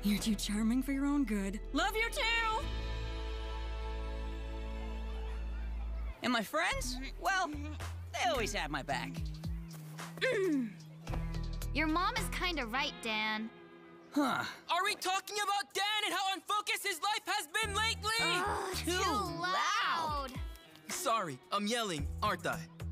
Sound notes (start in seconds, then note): 4.9 children chattering; 14.2 yelling